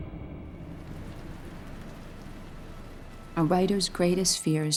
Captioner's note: music fades; rain pattering